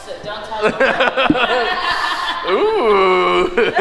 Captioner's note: laughs